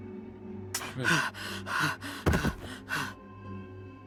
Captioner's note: Robyn pants